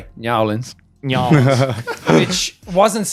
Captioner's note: laughing